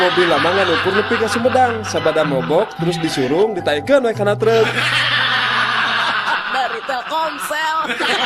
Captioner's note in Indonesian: tertawa